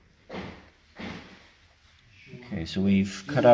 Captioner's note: thumping off camera